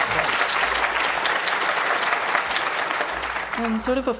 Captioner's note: applause